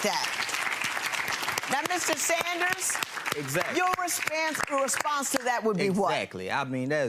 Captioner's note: audience applauds